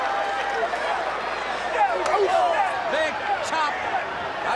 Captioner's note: crowd chatter